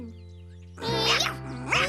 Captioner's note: kittens meow